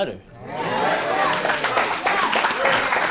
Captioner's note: audience applauds